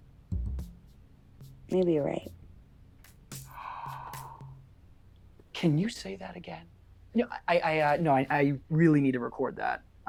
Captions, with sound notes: - Maybe you're right. (Peter gasps) - Can you say that again? No, I, I, uh, no, I really need to record that.